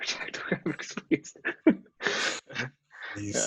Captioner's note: laughter